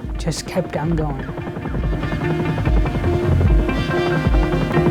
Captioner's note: helicopter flying